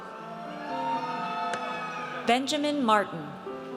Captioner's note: audience cheers